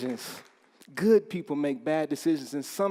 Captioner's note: applause